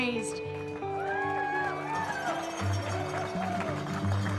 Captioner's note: appluase, cheering